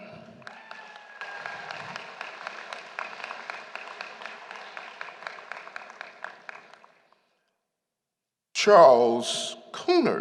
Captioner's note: applause